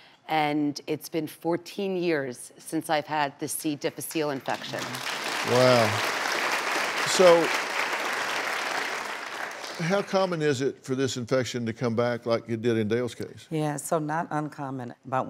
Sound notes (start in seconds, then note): 4.4 audience applauding